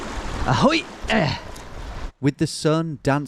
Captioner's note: grunting